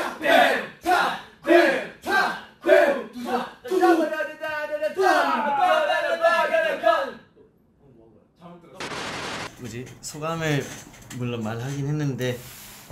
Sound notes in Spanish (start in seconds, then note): 8.8 silencio